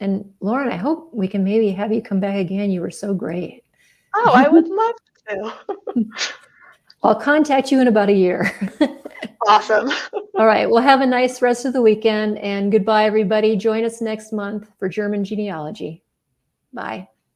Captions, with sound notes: And Lauren, I hope we can maybe have you come back again. You were so great. - Oh, I would love to. (laughs) - I'll contact you in about a year. (chuckles) - Awesome. (laughs) - All right, well have a nice rest of the weekend and goodbye everybody. Join us next month for German genealogy. Bye.